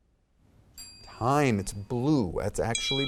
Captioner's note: timer dings